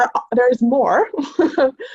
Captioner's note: laughs